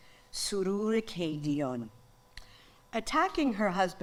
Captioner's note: speaks in foreign language